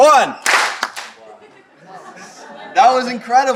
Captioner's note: audience claps